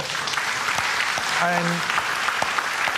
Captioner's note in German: Applaus